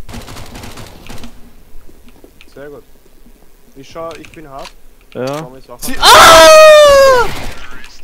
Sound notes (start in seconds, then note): 5.8 screaming for his life